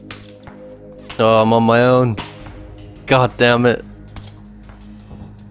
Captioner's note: groan